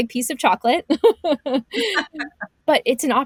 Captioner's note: laughs